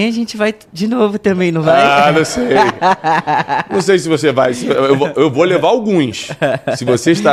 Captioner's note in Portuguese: risadas